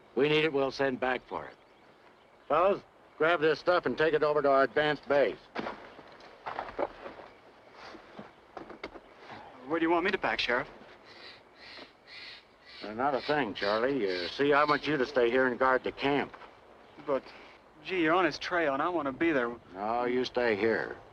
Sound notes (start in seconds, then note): 10.9 bird squawking